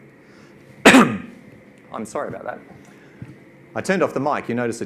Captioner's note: coughs